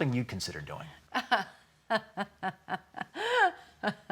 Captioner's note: laughs